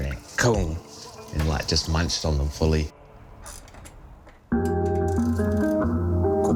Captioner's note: imitates tooth thuds